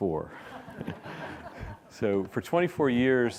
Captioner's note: audience laughs